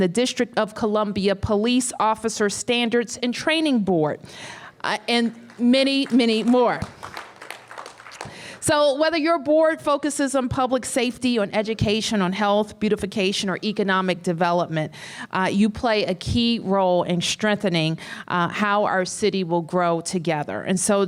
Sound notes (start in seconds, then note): 7.3 applause